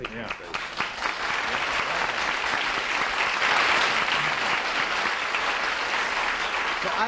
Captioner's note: applause